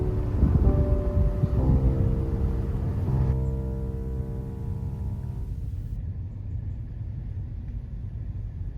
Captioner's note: emotive piano music; background nature